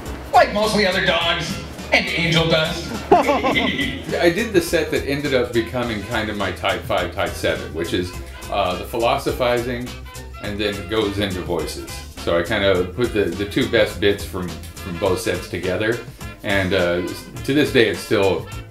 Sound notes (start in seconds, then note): 2.7 laughter